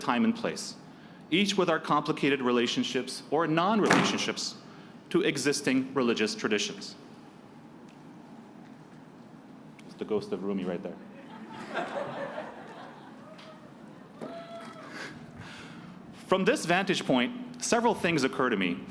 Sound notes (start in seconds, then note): 3.8 slamming noise; 11.1 laughing